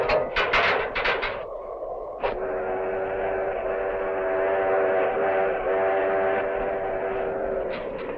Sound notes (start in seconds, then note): 0.0 rattling; 0.7 train whistling